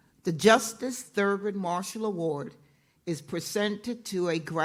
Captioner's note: none